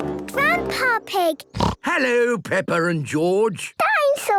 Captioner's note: snorts